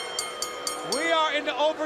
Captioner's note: bell ringing